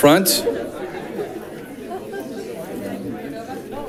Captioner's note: crowd chatting